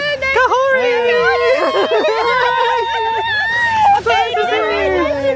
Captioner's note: excited greetings